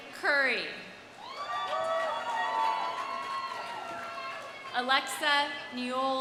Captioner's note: audience cheering; audience applauding